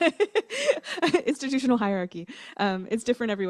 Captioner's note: laughter